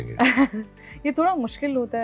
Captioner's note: laughs